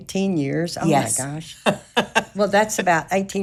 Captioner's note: laughing